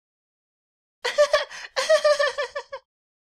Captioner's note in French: rire fluet ridicule